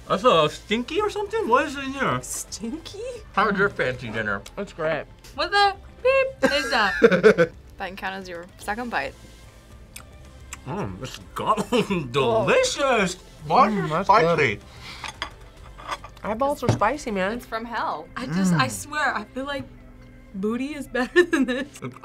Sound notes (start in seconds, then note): 6.4 laughs; 11.2 laughs